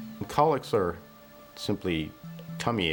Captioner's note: none